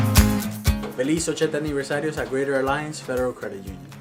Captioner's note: upbeat lively music; speaks in foreign language